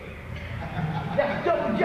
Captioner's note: mild laughter